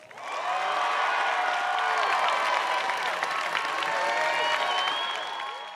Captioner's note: audience cheers and applauds